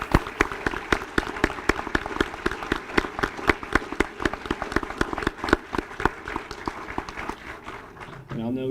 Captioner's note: applause